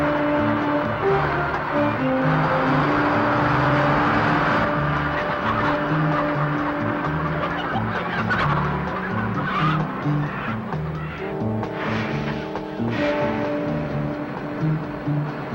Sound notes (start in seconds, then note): 0.3 suspenseful music; 4.0 truck engine whirring; 8.3 chicken clucking; 11.5 suspenseful music